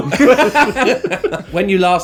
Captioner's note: laughing